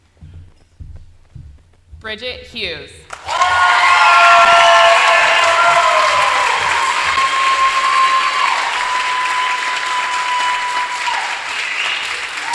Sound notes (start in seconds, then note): 8.1 applause